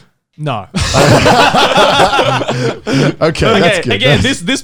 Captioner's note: all laughs